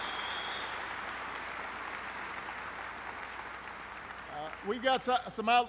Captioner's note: applause